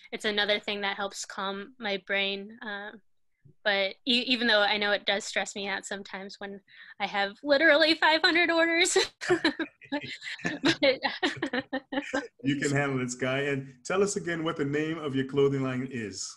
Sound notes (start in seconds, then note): 8.9 laughter